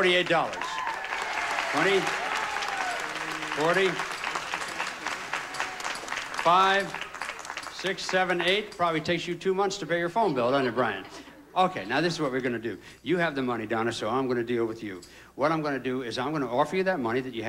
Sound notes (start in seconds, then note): 2.5 audience applauding